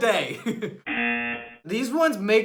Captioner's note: chuckles; buzzer